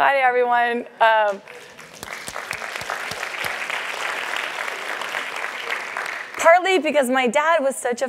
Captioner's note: applause